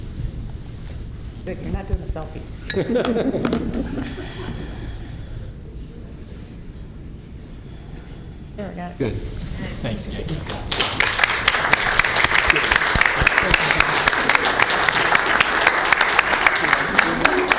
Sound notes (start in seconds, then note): 8.9 laughter